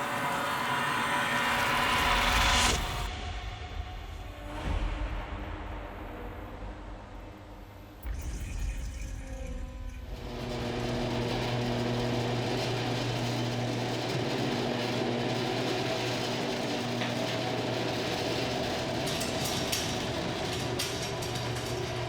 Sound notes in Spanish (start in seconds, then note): 4.6 la música siniestra continúa; 10.2 la puerta del garaje retumba; 18.6 la puerta del garaje retumba